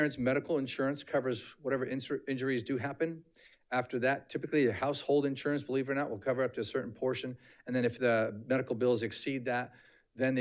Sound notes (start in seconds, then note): none